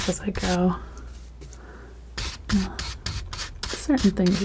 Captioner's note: tapping